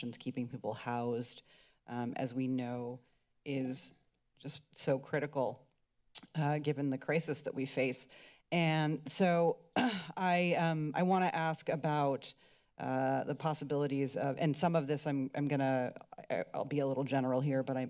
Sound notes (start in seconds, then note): 9.8 clears throat